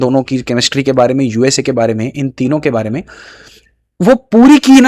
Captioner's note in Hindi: नाक से की जाने वाली आवाज़